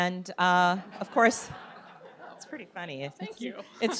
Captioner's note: audience laughs